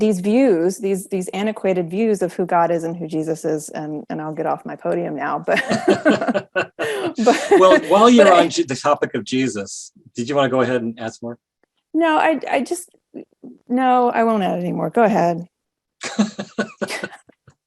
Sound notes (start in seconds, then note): 5.5 both laughing; 16.0 both laughing again